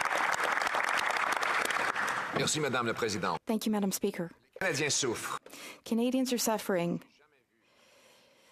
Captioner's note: applause